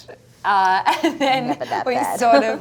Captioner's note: laughs